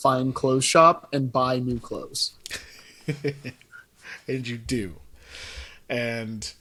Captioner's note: laughs